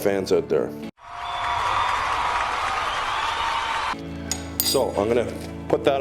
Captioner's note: people cheering